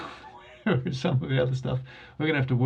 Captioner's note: laughs